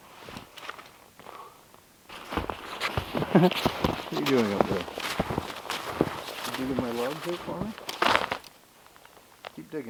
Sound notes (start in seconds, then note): 3.2 chuckles